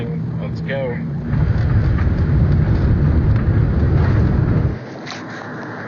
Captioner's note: plane rumbling